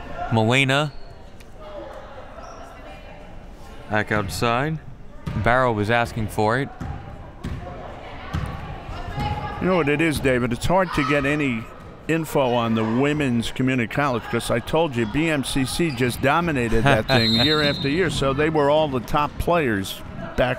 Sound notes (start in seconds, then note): 17.1 whistle